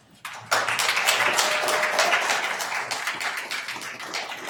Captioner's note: attendees applauding